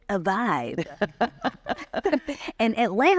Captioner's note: laughing